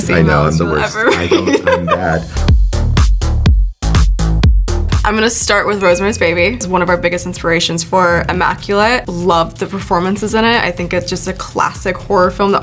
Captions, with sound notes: you'll ever read. - I know, I'm the worst. (Sydney laughing) I'm bad. (upbeat music) I'm gonna start with Rosemary's Baby. It's one of our biggest inspirations for Immaculate. Love the performances in it, I think it's just a classic horror film